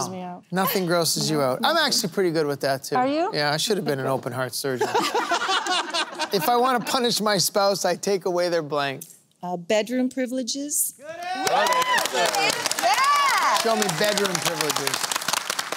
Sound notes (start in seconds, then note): 4.7 laughter; 11.1 cheering